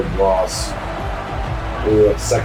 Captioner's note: crowd Noises